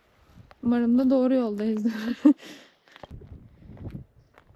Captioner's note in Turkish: kahkaha